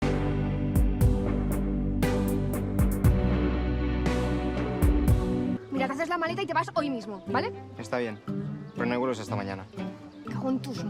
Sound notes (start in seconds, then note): 0.4 gentle music; 6.0 Noah speaking in foreign language; 8.2 Nick speaking in foreign language